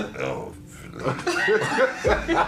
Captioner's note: laughing